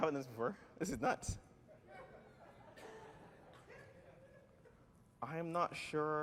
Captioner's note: laughter